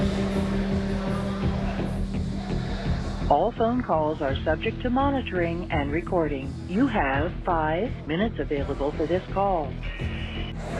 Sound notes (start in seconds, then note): 3.1 recorded Voice